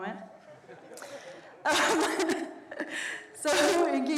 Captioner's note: everyone laughs